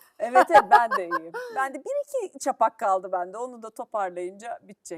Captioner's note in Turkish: kahkaha